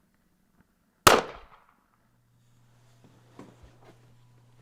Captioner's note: gun fires